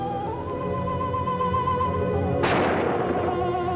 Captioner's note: gunshots; screaming